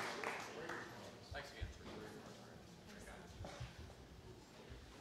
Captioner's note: people chattering